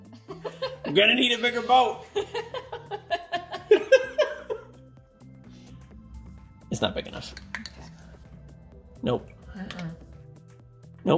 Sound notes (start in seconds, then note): 4.2 laughing